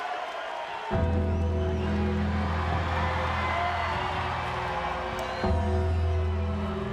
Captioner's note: crowd cheering; church bell ringing